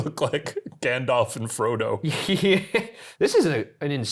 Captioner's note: laughing